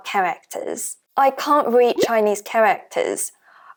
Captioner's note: Mandarin